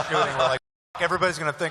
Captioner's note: laughter